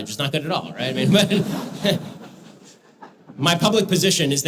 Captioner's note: audience laughter